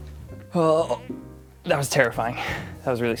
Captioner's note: groaning